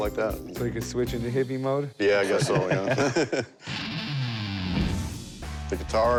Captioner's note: laughter